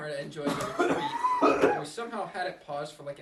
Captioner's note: loud coughing